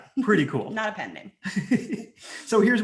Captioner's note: laughs